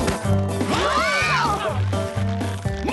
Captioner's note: scream